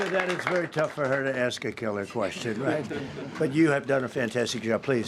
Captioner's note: applause